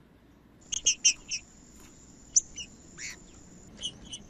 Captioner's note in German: trinca ferro cantando